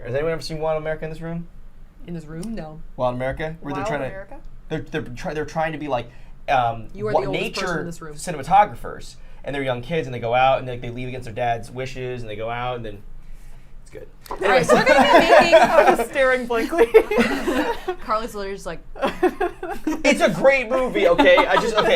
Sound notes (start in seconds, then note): 14.3 laughs